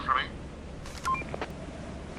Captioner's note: walkie Beeps